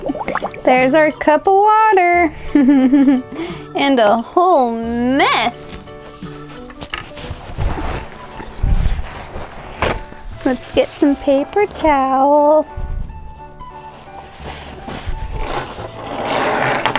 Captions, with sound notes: There's our cup of water. (giggling) And a whole mess! Let's get some paper towel